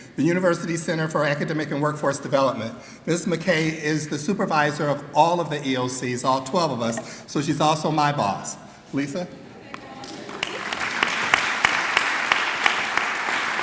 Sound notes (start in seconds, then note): 10.0 clapping